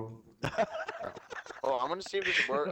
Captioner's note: laughter